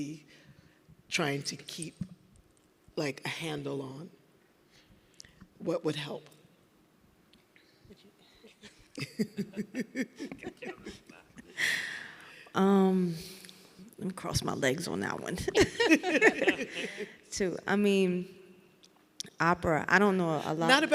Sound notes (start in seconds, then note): 8.9 people laughing; 15.6 everyone laughing